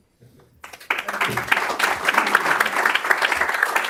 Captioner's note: applause